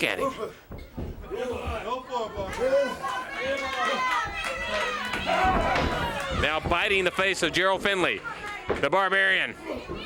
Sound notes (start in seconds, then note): 2.3 crowd cheering